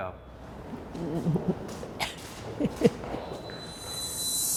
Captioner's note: footsteps scattering; wind screeches